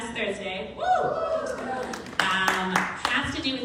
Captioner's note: crowd cheering